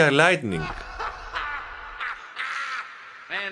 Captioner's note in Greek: έντονο γέλιο